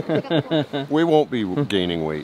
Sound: gentlemen laughing

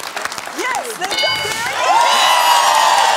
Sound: bell dings; applause

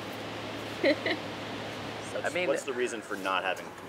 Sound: laughing

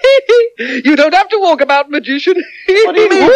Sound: continues Laughing

